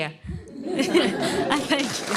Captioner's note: laughter